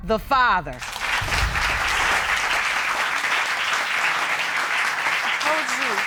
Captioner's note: applause